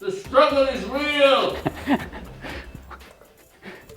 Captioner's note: laughs